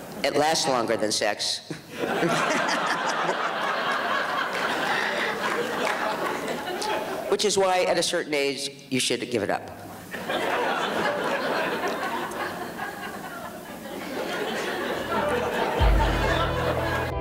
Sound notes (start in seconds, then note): 1.8 and audience continue to laugh; 10.1 audience laughs